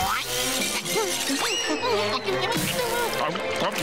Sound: humming

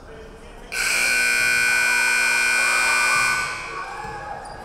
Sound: buzzer buzzing

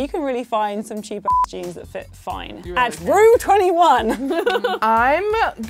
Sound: beep

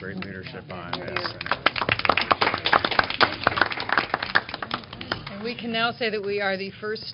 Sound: applause

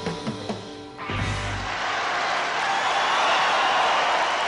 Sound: audience cheers

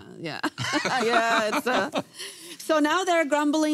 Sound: laughing

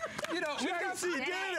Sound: applause

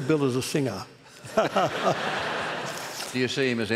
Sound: laughter

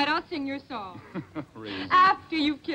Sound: chuckles

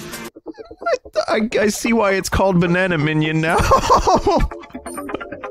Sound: laughs

